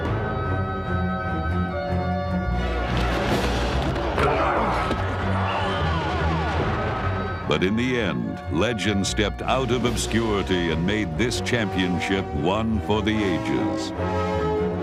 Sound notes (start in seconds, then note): 4.3 player yells; 5.4 whistle blows